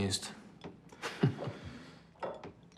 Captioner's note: laughing